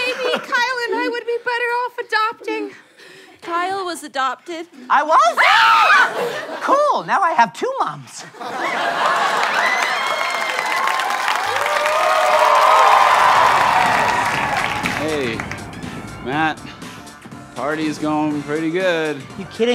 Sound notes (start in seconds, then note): 5.3 screaming; 8.5 audience cheering